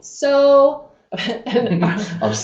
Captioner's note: speaker clearing his throat